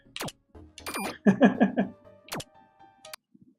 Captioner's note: chuckles